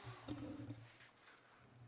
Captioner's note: speaking French